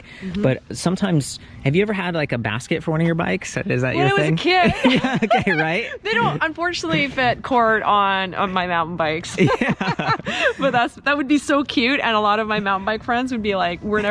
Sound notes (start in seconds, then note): 9.3 laughs